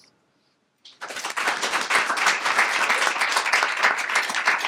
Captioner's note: applause